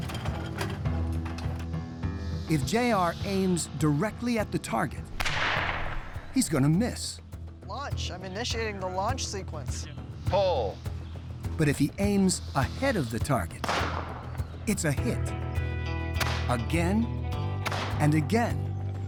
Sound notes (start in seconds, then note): 0.1 launcher rattles; 5.1 gunshot echoes; 13.6 gunshot echoes; 15.4 gunshots echo